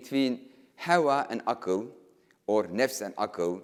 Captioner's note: speaking in foreign language